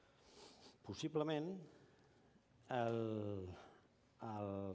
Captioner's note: non-english speech